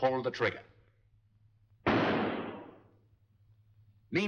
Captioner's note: gunshot